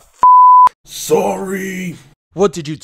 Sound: calling out

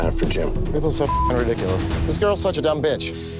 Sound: beeping

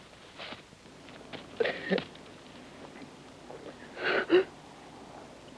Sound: Frenando gasping

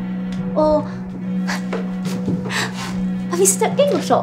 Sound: laughs softly

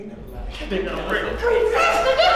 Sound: speaking away from mic; laughing

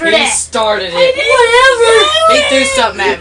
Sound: crying

